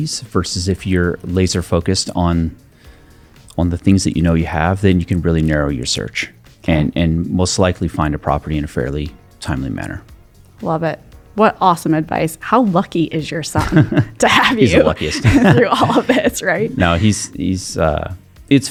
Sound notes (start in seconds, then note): 13.5 laughs; 13.6 chuckling; 17.9 laughing